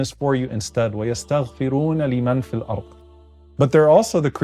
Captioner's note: Omar speaking Arabic